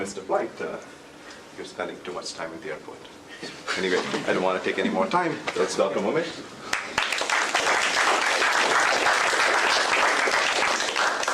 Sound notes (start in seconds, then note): 6.7 applause